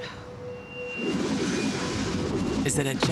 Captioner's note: whooshing noise